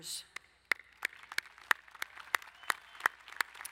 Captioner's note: applauding